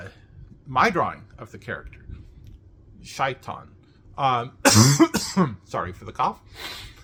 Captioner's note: cough